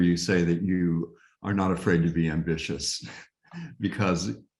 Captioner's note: chuckles